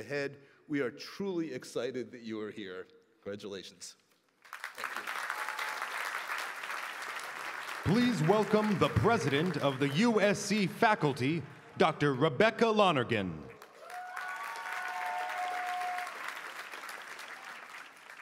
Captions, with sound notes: POSITION. WE ALL LOOK FORWARD TO DEEPENING OUR ENGAGEMENTS WITH USC IN THE YEARS AHEAD.W E A R E T R U L Y EXCITED YOU ARE HERE. CONGRATULATIONS. [ APPLAUSE ]